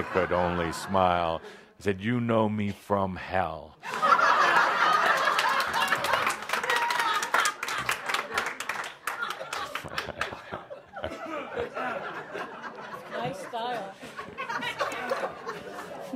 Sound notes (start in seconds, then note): 5.6 laughter and audience applause